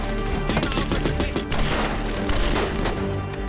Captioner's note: gunfire continues